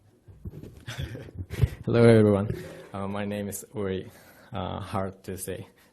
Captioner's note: laughing